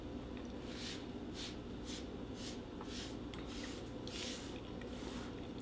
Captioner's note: brushing table rhythmically